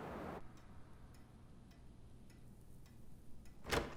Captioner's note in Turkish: Saat efekt sesi; Kapı açılma sesi